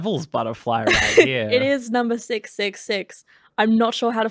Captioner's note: laughing